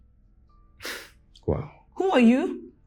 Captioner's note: scoffs